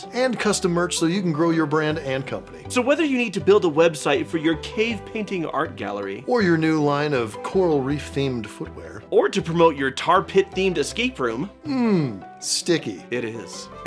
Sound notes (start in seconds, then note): none